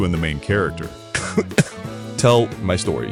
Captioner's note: cough